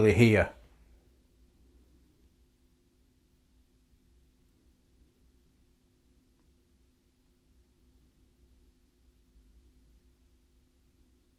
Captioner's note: silence